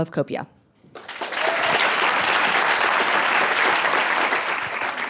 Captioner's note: audience applause